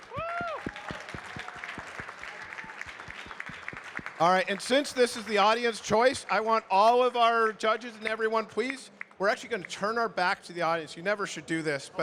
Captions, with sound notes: - Whoo! (audience cheering and clapping) - And since this is the Audience Choice, I want all of our judges and everyone, please, we're actually gonna turn our back to the audience. You never should do this,